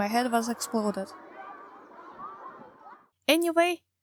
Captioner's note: noise become silent